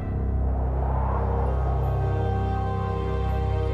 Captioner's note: mysterious music; wind whistles